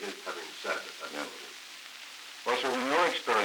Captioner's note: Murrow, mumbling